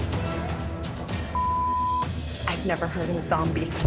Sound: beeps

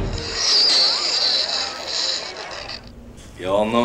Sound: chalkboard screeching

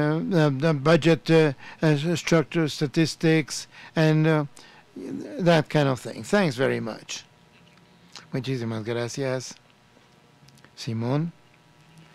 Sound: Spanish

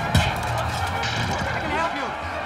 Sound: punch

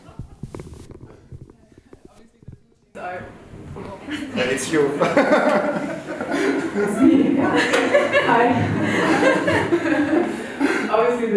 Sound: microphone screech

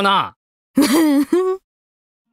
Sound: giggles

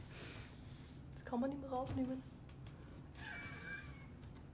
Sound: laughs

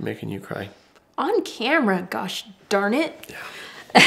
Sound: laughs

